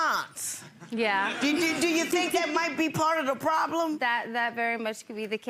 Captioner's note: chuckles